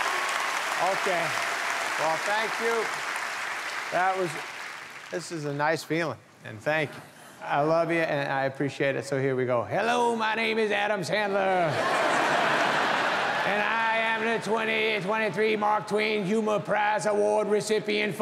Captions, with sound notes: Okay, well thank you. That was, this is a nice feeling, and thank you. I love ya and I appreciate it, so here we go. Hello, my name is Adam Sandler. (audience laughing) And I am the 2023 Mark Twain Humor Prize Award recipient